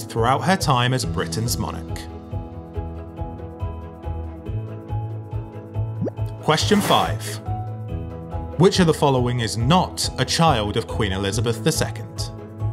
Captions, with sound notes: throughout her time as Britain's monarch. (gentle music) (number pops and whooshes) Question five. Which of the following is not a child of Queen Elizabeth II?